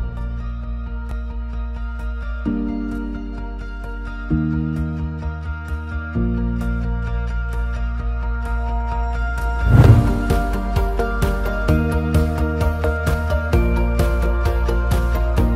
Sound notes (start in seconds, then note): 0.1 motivational music; 9.6 swoosh sound